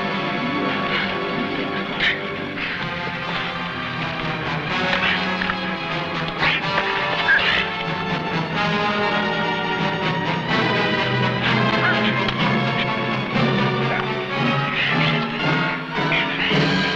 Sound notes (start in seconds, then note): 0.7 men grunting; 5.1 weapons whacking; 6.4 men grunting; 9.4 suspenseful music; 14.4 men grunting